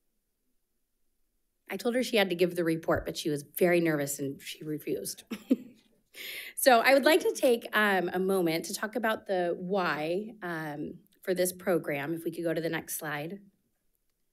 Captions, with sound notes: I told her she had to give the report, but she was very nervous and she refused. (chuckling) So I would like to take a moment to talk about the why for this program, if we could go to the next slide.